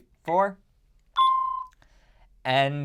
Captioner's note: beeps